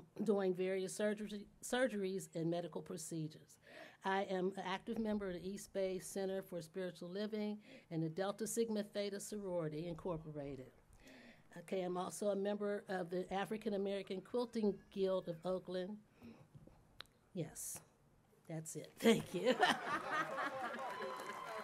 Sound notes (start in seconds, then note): 19.2 laughter